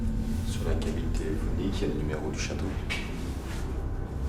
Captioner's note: speaks French